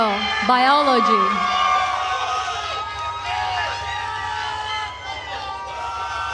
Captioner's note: attendees cheering and applauding